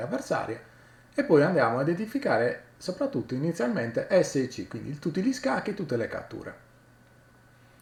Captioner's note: in italian language